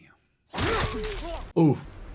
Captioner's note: weapon smashing